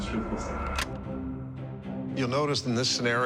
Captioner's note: clicking